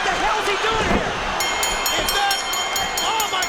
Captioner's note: bell ringing